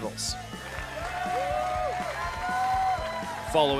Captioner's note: cheering and applause